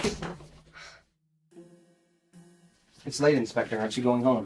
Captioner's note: Christina sighs